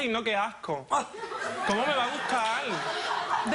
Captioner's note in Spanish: Risas